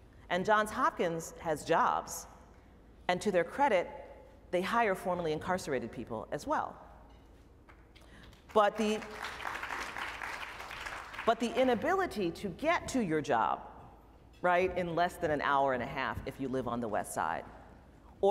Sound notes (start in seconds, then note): 8.2 applause